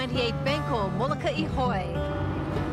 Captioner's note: boat engine running